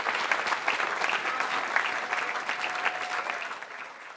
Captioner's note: applause